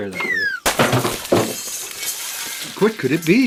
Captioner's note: glass breaking sound